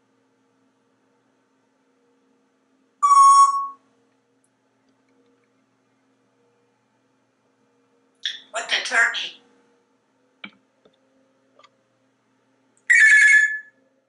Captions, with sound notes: [Electronic beep] What the turkey? [Telephone sound]